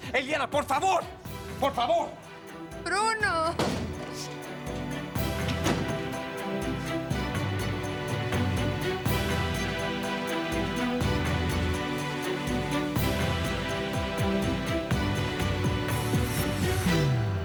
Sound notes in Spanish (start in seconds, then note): 6.7 Portazo